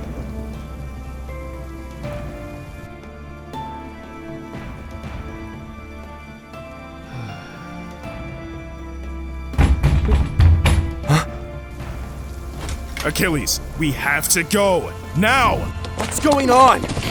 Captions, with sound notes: *knocking sounds* Achilles! We have to go! Now! What's going on?